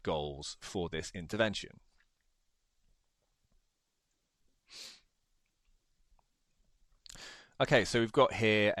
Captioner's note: sniffs